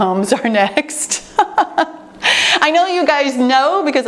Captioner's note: laughs